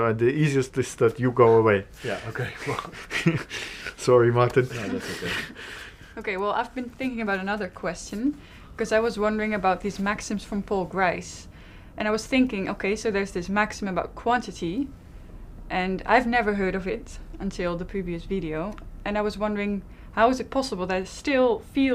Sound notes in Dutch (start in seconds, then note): 2.2 lacht